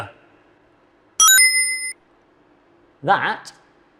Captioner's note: video game beeps